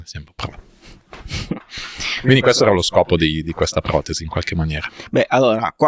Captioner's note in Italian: sbuffare